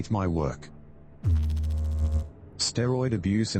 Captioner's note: electrical noise